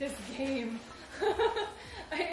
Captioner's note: laughs